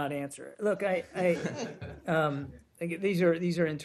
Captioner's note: laughter